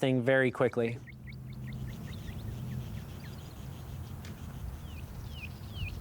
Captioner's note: birds and wildlife sounds